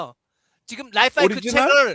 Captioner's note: non-english speech